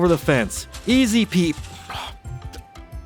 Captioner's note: sigh